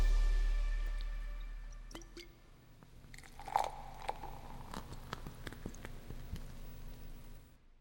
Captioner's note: upbeat music; beer being poured